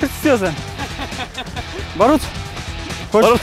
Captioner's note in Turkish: Gülüşmeler